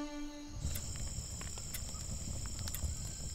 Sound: clock ticking

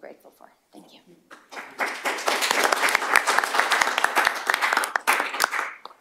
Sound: applause

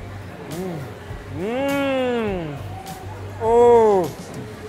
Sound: murmurs

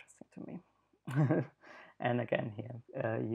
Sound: laughs

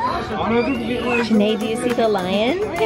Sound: squealing

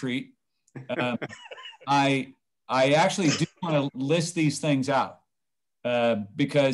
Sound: laughter

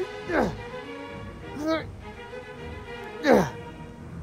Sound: struggle Sounds

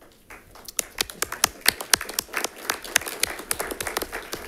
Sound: audience applauds

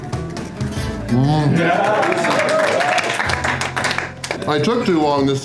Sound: crowd clapping and cheering

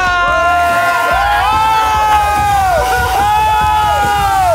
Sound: all cheering

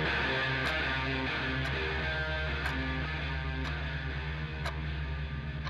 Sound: clock ticking

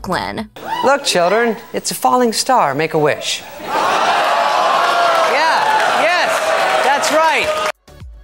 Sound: crowd groans

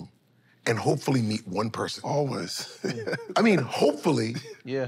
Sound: chuckles

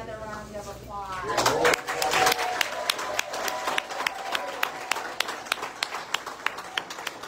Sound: audience cheers and applause

